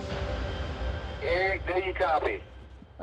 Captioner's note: over walkie